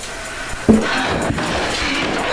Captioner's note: tapping